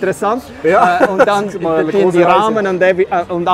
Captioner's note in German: lacht